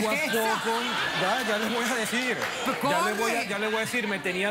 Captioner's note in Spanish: risas del público